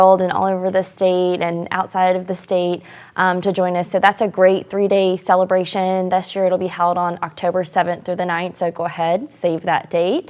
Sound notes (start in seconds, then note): none